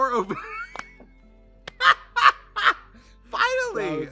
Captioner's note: Katya slaps leg; Trixie laughs